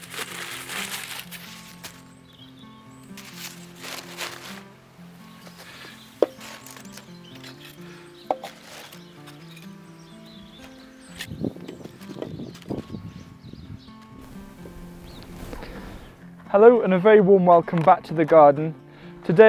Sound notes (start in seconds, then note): 0.0 paper rustles; 0.1 soft upbeat guitar music; 2.0 bird chirping; 6.2 wood clunks